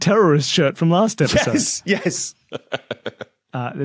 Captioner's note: laughs